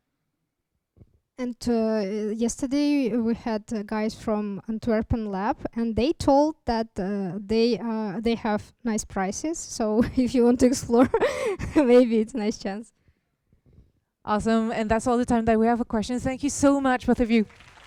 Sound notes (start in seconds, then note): 11.5 laughter